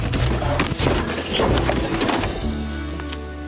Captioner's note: books fall